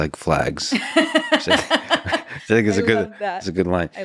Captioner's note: laughing